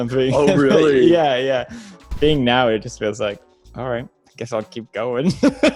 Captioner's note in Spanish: risas